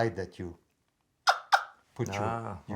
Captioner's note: wing bone turkey call clucking